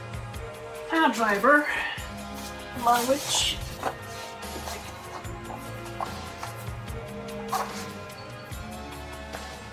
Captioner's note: bed creaking